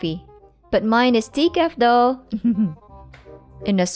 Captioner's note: chuckles